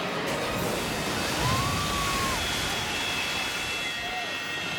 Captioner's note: tense music; person screams